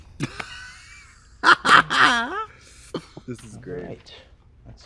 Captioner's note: Trixie and Katya laugh